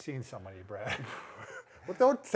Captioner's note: chuckles